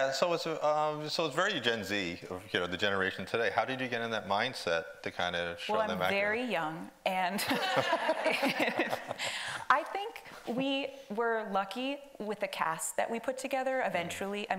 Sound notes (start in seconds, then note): 7.4 audience laughing